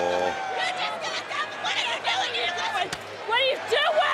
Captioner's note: wrestlers screaming